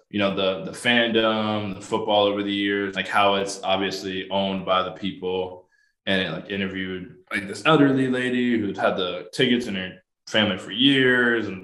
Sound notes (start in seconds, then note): none